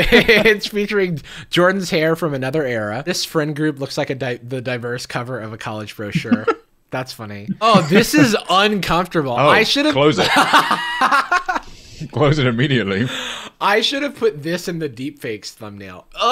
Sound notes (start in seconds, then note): 10.1 laughter